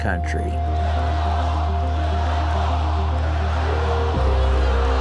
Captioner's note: crowd chanting